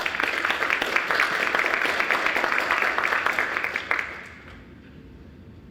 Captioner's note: applause